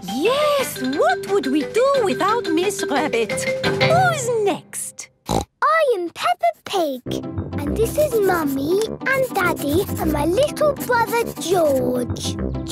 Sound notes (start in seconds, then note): 5.2 snorts